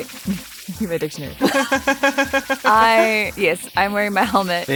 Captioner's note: giggles